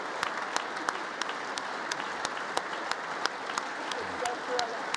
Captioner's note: congress applauding